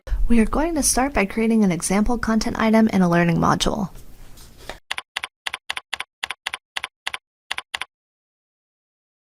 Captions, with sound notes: We are going to start by creating an example content item in a learning module. [typing on a keyboard]